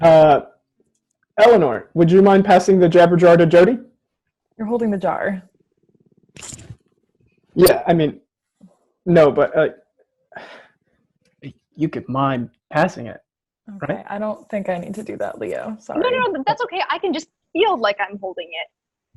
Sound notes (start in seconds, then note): 10.3 sighs